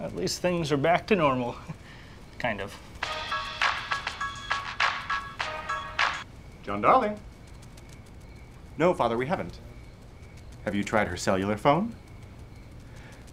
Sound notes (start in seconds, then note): 3.0 hip hop ringtone